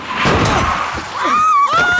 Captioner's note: tires screeching; car thunking; drag queens shrieking